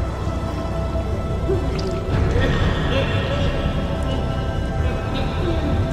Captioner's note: Pickman coughing and wailing